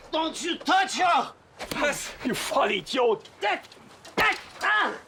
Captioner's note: speaks foreign language; Gregore yells